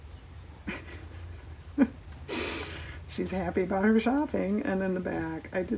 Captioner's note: laughs